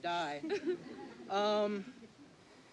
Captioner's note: laughter